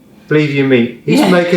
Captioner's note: laughs